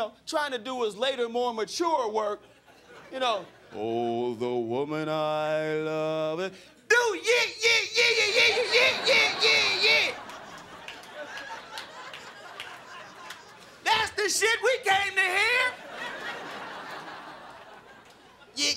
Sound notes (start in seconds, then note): 10.0 crowd laughing; 15.3 crowd laughing